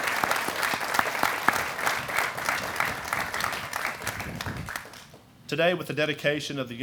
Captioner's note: applause